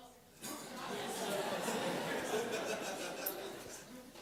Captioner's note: laughter